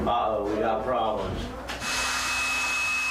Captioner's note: electrical saw buzzing